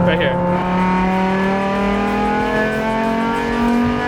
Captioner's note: engine roaring